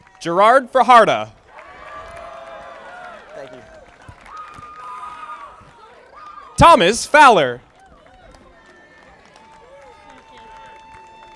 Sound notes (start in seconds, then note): 1.3 audience applauding